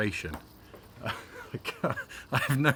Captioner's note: laughing